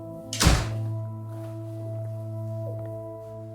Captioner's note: door slamming